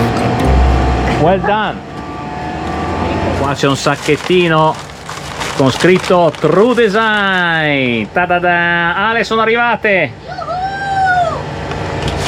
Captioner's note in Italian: urlo